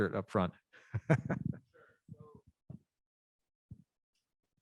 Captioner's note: laughing